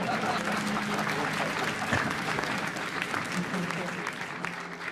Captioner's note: crowd laughs and cheers